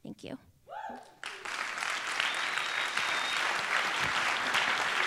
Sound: applause

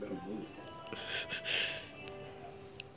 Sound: chuckles

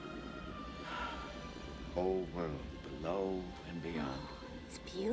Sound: Phillip Sighs

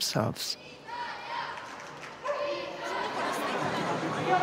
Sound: crowd chanting

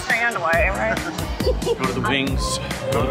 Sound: both laughing

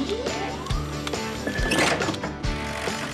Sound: clank!; hydraulic Whir; upbeat Music

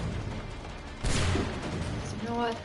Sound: gunshot

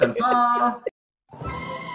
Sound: laughs

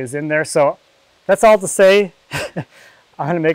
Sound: laughs

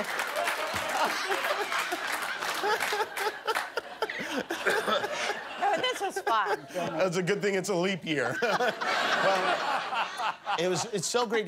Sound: laughter

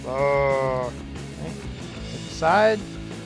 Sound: roars

